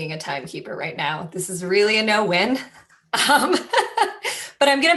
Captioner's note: laughter